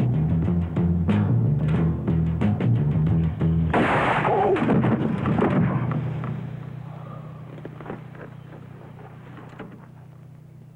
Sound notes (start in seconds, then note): 3.7 gunfire pops